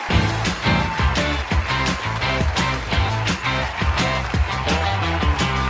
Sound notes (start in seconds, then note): 0.0 applause; 0.0 upbeat music